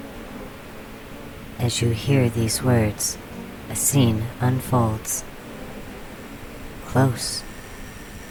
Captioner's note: the bee swarm gets quiet; an ill-maintained neon light resonates at a high pitch